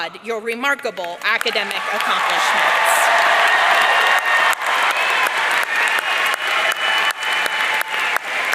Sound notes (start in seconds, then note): 1.4 audience cheering